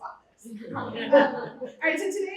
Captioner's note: laughter